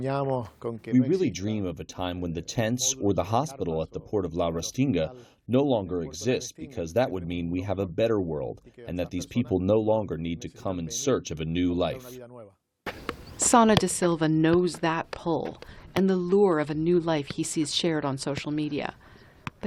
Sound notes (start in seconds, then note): 1.7 through translator; 13.5 voice-over